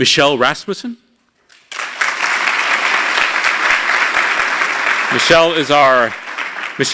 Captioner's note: applause